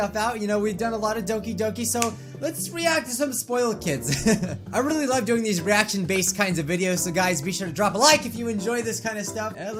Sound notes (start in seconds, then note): 4.0 giggles